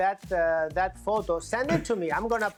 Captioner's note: laughter